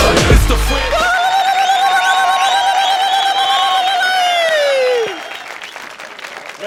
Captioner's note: iraqi wedding noises